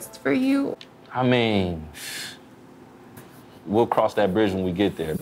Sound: inhales sharply

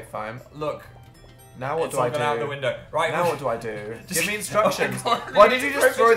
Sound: laughs

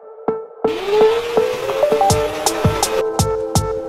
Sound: motor revving

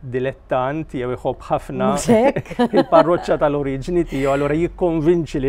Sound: laughs

